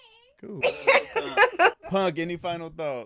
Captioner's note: laughing